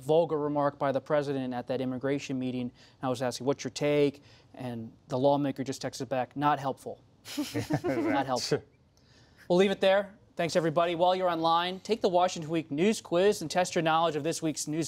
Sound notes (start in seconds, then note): 7.3 laughter